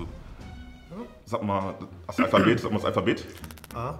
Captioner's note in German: Er räuspert sich